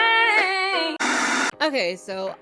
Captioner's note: disturbance hissing